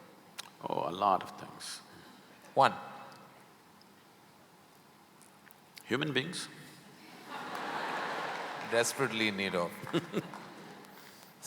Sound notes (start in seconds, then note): 7.1 laughter; 9.8 Sadhguru laughs